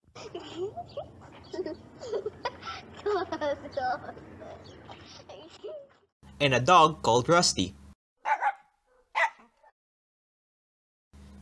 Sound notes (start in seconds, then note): 0.1 children giggle; 8.2 dog barks